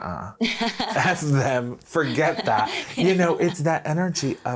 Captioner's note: laughing